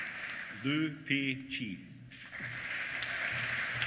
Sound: applause

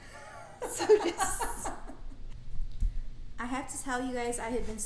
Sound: laughing

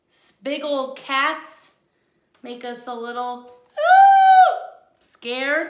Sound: yells

